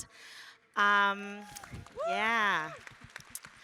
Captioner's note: applause